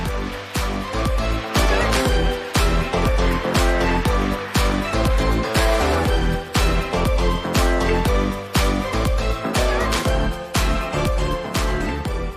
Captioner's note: applause